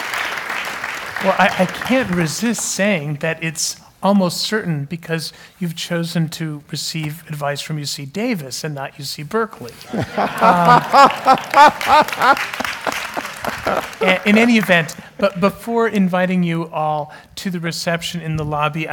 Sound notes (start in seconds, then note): 0.0 applause; 9.8 laugh; 10.3 applause